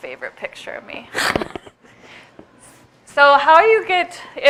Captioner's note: chuckles